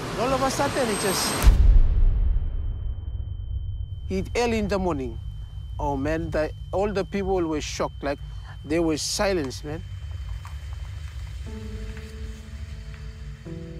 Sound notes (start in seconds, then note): 1.4 boom!; 2.7 high-pitched whine; 11.5 sombre music